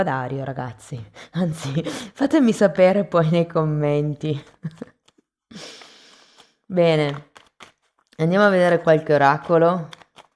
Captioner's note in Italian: risate